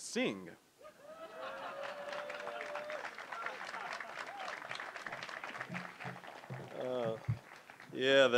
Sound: audience laughing; applause

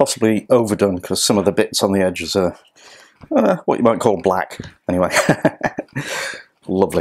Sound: laughs

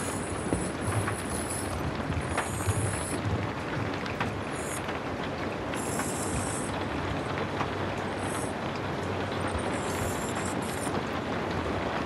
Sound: sounds of rain pattering on a window

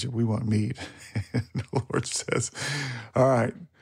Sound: laughs

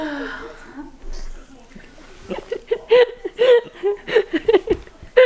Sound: laughing

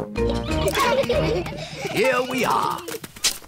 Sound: all giggle

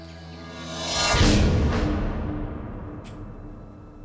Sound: air whooshing

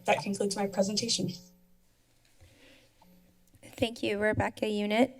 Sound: silence

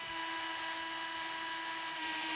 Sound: drill whirrs

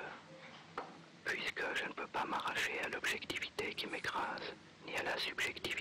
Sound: narrating in foreign language

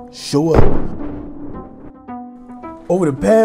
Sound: gun firing

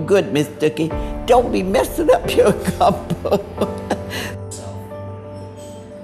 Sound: laughs

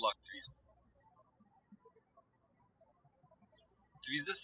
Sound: birds chirping

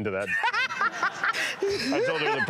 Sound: laughs

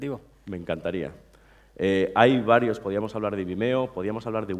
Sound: speaking spanish

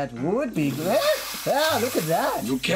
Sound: water fizzing

